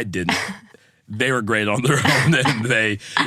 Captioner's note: laughs